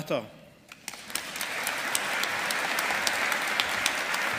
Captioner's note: audience applauding